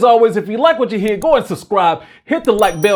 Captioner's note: mouse clicks; bell dings